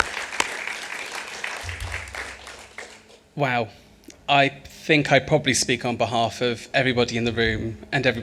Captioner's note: applause